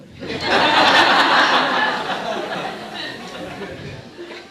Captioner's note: laughing